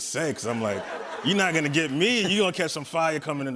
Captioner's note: laughter